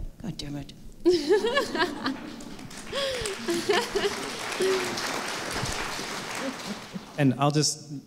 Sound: laughter and applause

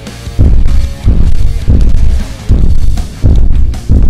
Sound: feet stomping

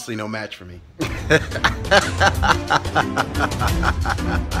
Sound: maniacal anime laugh cliche

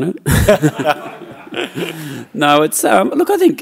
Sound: laughing

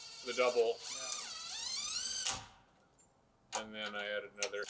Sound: drill whirring

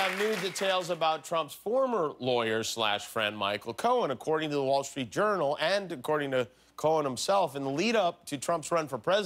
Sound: applause

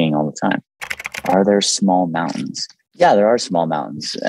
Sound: keyboard clicking

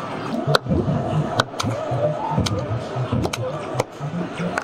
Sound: joystick clicking

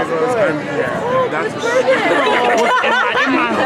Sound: murmuring

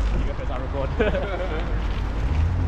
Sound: laughs

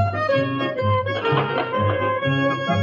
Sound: chair creaks

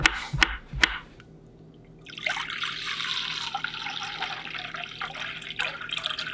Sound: pouring Water

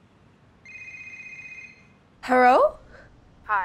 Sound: phone ringing; putting on Chinese accent

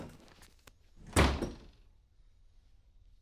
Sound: door closes; door opens

